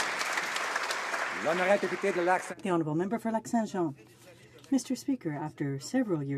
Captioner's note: some Applause